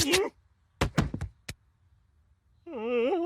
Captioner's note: person thudding; Homer babbling